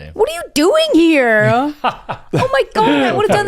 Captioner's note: laughs